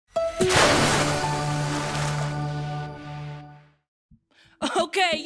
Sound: splashing

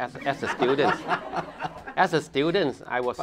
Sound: laughter

